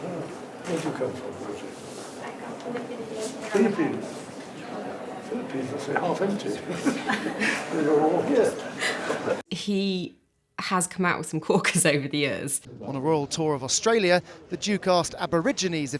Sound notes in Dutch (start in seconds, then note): 6.4 Velen lachen; 9.2 lacht